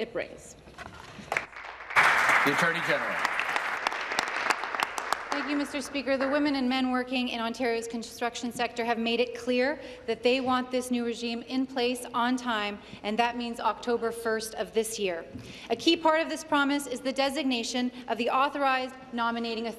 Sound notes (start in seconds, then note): 4.3 applause